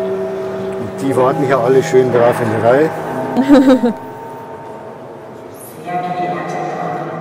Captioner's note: laughs